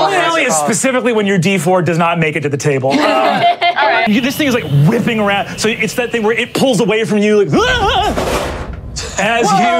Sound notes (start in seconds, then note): 2.9 laughs